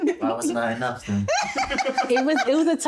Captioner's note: laughing